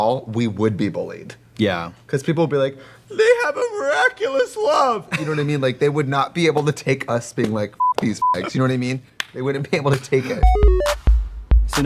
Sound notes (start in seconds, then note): 7.8 beeping; 10.4 upbeat music